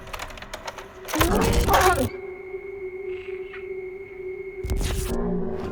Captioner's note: Rougarou roaring